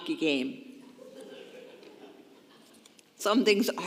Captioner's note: congregation laughing